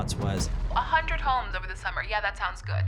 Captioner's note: female Over Phone